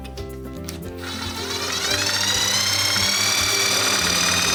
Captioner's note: drill whirs